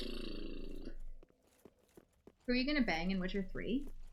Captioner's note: snorts